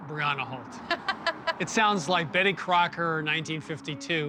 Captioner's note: laughs